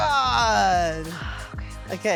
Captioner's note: sighs